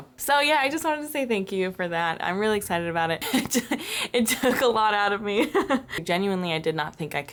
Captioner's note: laughter